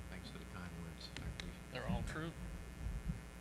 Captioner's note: speaks faintly